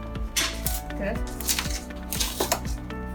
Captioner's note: box tears; inspirational music